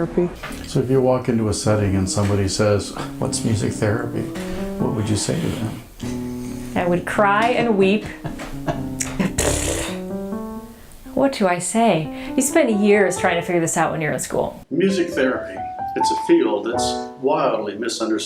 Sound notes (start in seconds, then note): 7.6 producer laughs; 8.2 buzzes her lips together